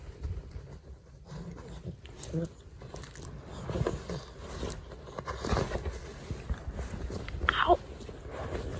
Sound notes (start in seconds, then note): 0.0 Ollie grunts in a slightly annoyed manner and shuffles around loudly